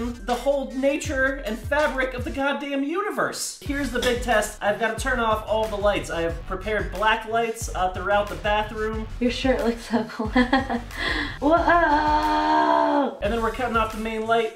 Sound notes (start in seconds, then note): 9.9 laughs